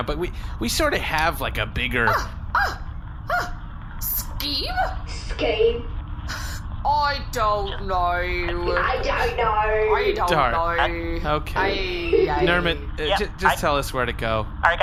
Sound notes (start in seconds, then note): 3.0 gasping indignantly; 10.6 with a bad cockney accent; 10.6 exasperated; 10.7 accent slightly traveling to Australia; 11.7 Bargie giggles